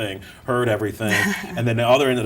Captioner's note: women chuckle